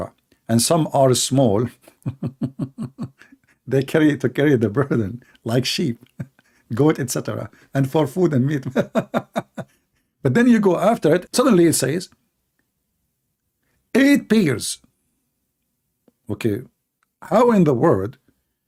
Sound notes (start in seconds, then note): 1.8 laughing; 8.6 laughing